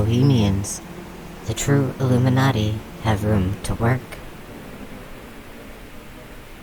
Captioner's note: the hum of the swarm returns to buzzing